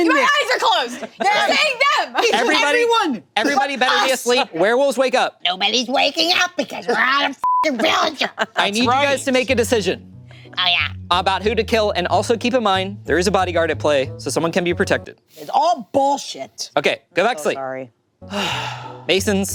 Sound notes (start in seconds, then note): 7.4 beep